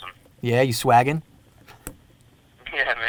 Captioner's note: laughs